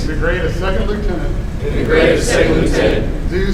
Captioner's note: commissionees repeat